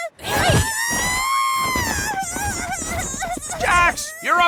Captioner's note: screaming; wailing